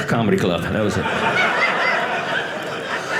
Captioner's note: audience laughing